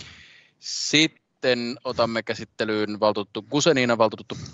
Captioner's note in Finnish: nuijan kopautus